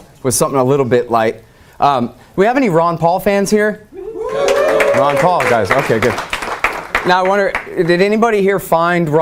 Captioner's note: audience cheers